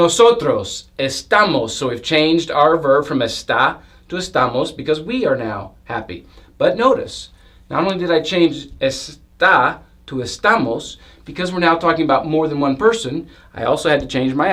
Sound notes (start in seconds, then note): 0.0 Spanish; 8.4 Spanish